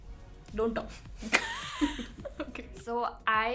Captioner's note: laughs